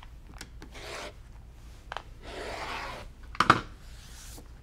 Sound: rotary cutter cutting fabric

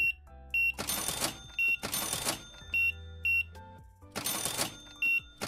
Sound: beeping

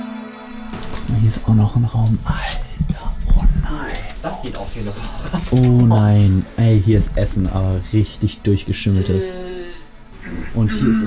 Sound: again sounds of disgust

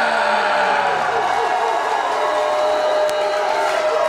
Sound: crowd cheering

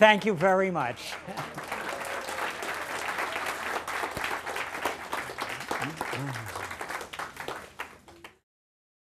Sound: laughter; applause

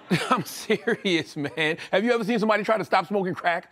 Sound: laughs

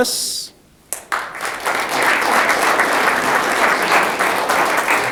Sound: audience clapping

